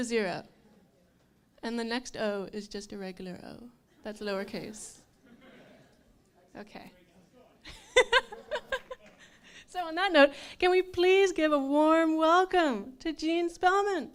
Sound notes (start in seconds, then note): 7.7 laughs